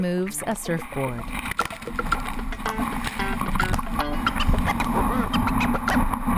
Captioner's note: water splashing; upbeat jazz music